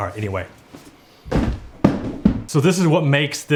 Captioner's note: box hits the ground